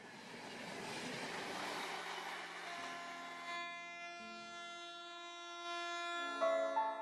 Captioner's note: train Honking